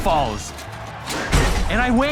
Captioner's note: crowd cheering, applauding